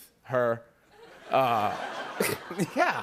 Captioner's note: laughter